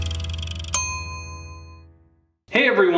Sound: ding

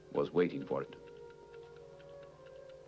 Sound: clock ticking

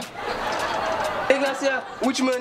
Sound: laughs

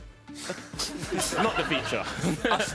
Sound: laughing

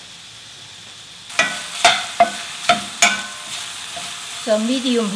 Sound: pork sizzling

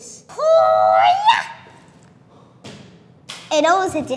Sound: screams

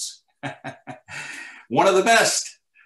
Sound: laughing

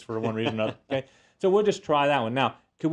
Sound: laugh

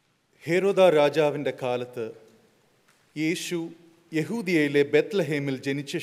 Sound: speaking in Malayalam

